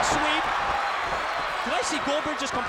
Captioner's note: crowd cheering